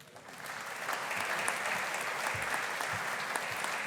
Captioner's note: audience applauding